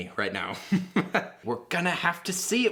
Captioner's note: laughing